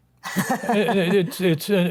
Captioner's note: laughing